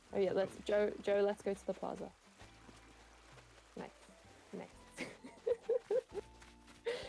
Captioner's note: laughing